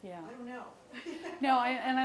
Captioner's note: laughs